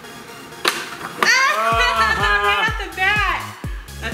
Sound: laughing

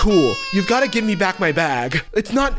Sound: baby crying

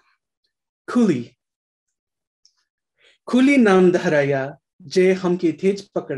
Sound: speaking in foreign language

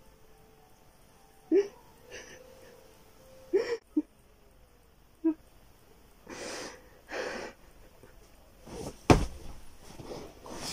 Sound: cries

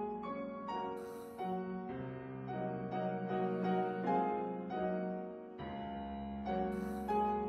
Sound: gasp

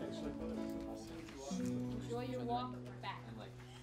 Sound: crowd chatting

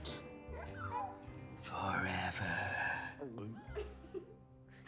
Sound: gasps

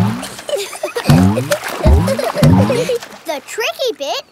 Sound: giggling

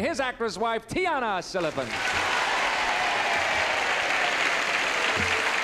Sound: applause and cheering

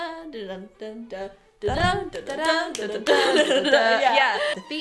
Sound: clapclapclap

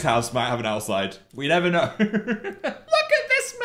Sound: laughs

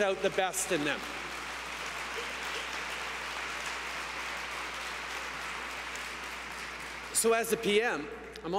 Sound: applause

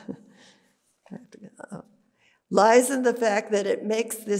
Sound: whispers

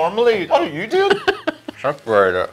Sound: laughs

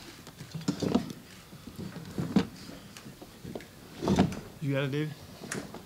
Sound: chairs shuffling

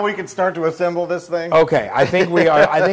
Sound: laugh

